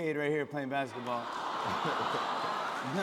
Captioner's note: audience "Awws"